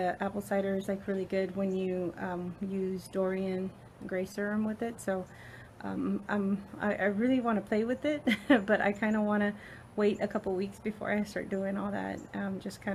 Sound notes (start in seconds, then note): 8.1 laughs